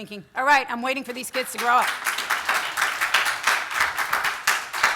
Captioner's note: audience applause; audience applause continues